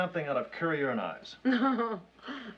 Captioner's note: chuckles